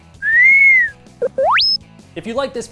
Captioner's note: robotic beeping